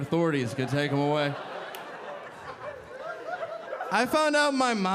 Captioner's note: audience laughing